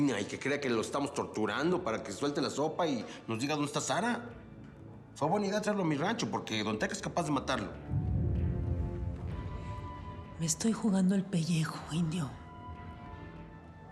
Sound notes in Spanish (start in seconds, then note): none